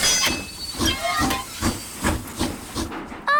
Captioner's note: train chugs